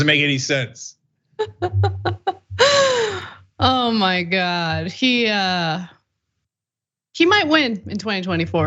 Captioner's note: laugh